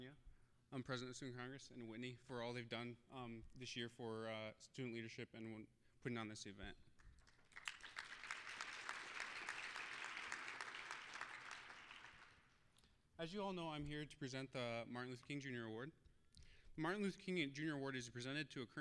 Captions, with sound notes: TONJA, PRESIDENT OF STUDENT CONGRESS, AND WHITNEY-- FOR ALL THEY'VE DONE THIS YEAR FOR STUDENT LEADERSHIP AND PUTTING ON THIS EVENT. (applause) AS YOU ALL KNOW, I'M HERE TO PRESENT THE "MARTIN LUTHER KING JR. AWARD." THE "MARTIN LUTHER KING JR. AWARD" IS PRESENTED